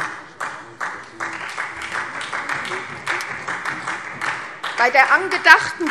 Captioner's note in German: Beifall SPD und vereinzelt Freie Demokraten